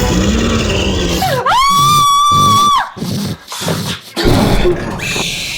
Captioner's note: Sheila screaming; creature grunting